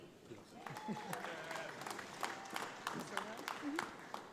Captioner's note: audience applauds